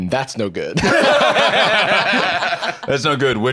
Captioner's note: all laughing